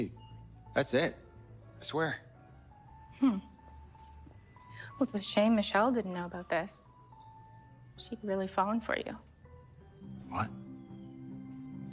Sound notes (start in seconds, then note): none